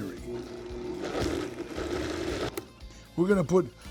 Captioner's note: blender whirring